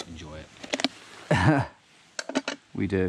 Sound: chuckling

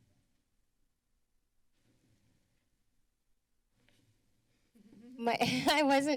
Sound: silence

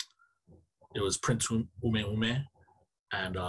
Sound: speaking in foreign language

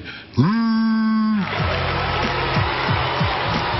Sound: booing

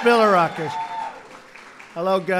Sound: applause

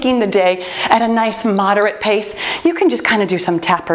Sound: timer beeps

